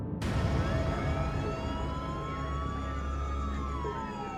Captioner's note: police sirens